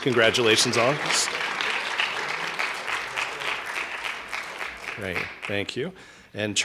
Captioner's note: applause